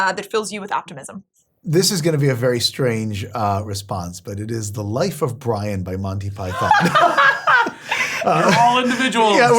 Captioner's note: laugh